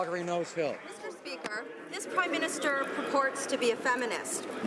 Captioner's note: some Applause